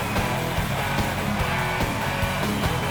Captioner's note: cheers and applause